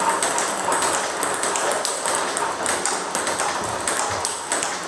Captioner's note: ball ping pong hitting continues